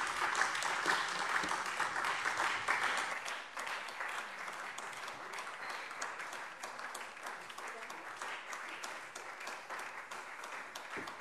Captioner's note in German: Beifall SPD und Freie Demokraten